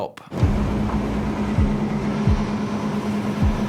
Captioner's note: engine roaring